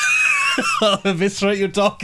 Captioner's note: laughing